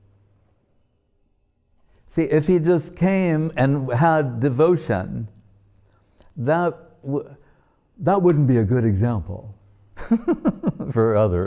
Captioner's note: laughing